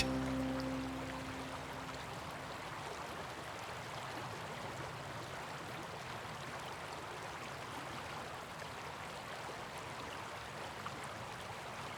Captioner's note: running water